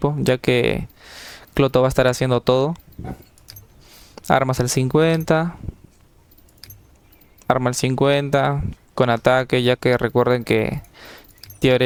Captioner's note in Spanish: resoplido